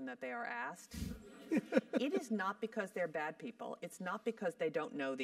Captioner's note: laugh